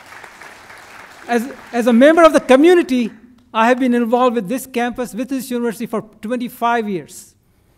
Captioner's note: applause